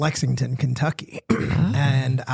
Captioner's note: clears throat